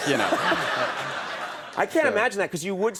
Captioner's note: audience laughs